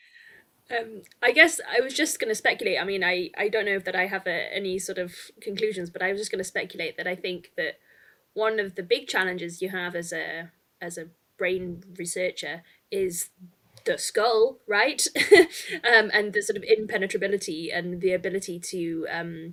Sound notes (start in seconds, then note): 15.2 chuckles